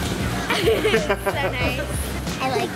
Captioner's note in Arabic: ضحكات; يضحك